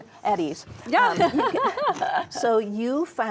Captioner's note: laughs